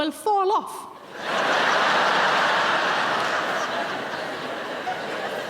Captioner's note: audience laughing